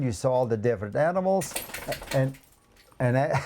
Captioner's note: rattling from the back; chuckles